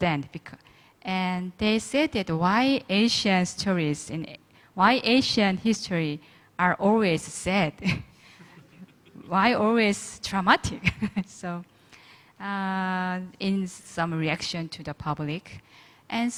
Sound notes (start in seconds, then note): 8.4 all laughing